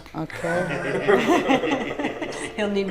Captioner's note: all laughing